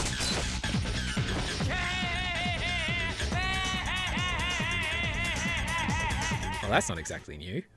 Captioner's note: deranged triumphant vampire-slaying laughter